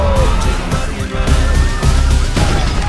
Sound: sirens wailing

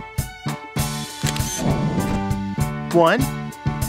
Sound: SFX: Camera Shutter

